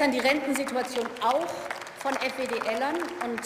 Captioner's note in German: Beifall